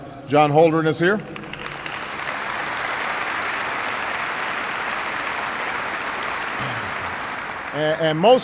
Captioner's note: applause